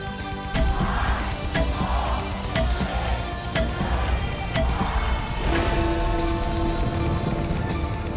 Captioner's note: Big Ben bongs